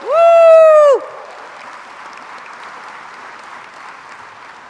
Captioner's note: crowd applauds